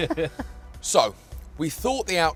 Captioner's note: laughs